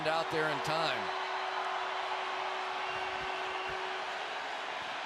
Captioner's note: cheering